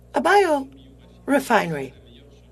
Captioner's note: speaking French